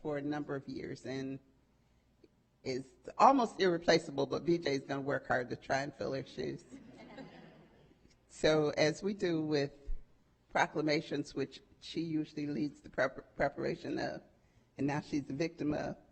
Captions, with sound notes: She's worked with us for a number of years, and is almost irreplaceable, but B.J.'s gonna work hard to try and fill her shoes. (audience chuckling) So as we do with proclamations which she usually leads